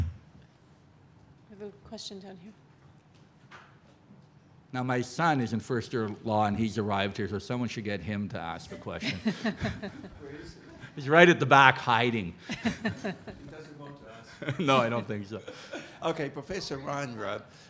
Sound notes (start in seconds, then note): 8.7 audience laughs; 12.0 laughs